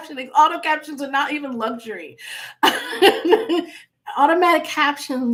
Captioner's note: laughing